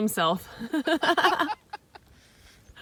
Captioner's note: laughing